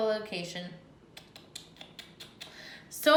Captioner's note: repeated poppysmic